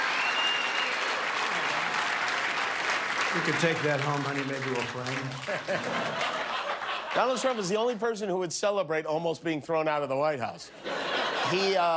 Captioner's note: cheers and applause